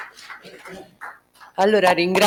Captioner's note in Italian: Applauso